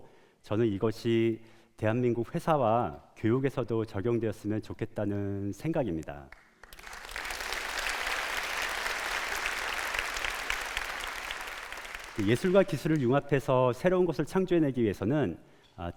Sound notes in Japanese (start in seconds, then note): 6.3 拍手